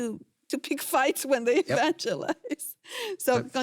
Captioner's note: laughs